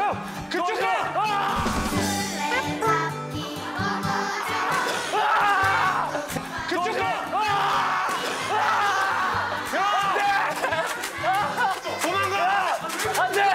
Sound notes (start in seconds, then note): 5.1 screaming; 8.4 his scream fills the studio